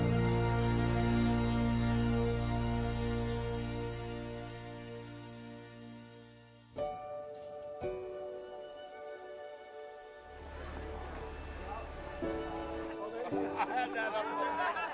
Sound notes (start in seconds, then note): 6.7 gentle music; 10.2 people chattering